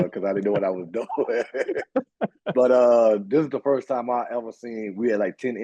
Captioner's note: chuckle